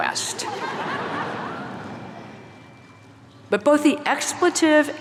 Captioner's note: audience laughing